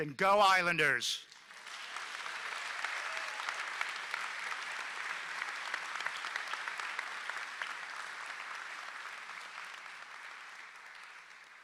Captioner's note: applause